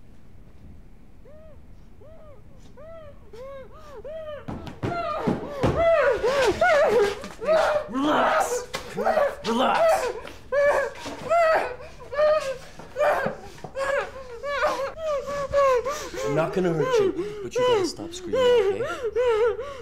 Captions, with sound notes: (panicked cries) Relax! Relax! I'm not gonna hurt you, but you gotta stop screaming, okay?